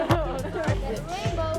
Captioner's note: children talking indistinctly